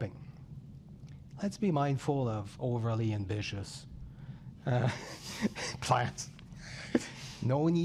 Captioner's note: laughs